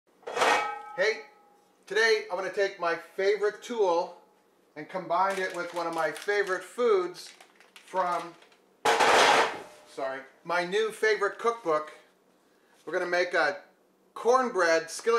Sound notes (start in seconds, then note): 8.9 pan clangs